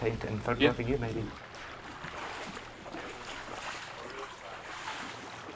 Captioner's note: water sloshing